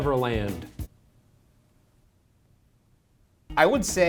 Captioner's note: awkwardly silent